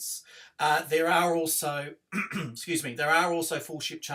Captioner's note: coughs